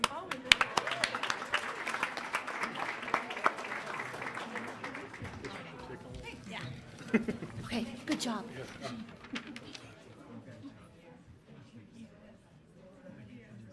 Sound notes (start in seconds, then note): 0.0 attendees applauding; 4.2 board members murmuring; 9.5 board members murmuring